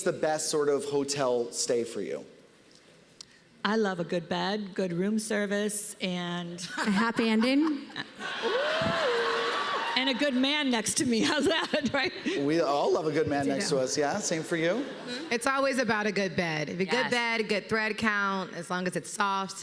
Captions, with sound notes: the best sort of hotel stay for you? I love a good bed, good room service, and... A happy ending? -Ooh! -[laughter] And a good man next to me. How's that, right? We all love a good man next to us, yeah. Same for you? -It's always about a good bed. -Yes. Good bed, good thread count, as long as it's soft...